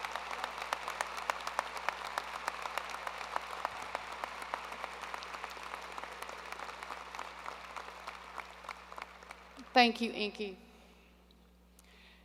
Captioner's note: applause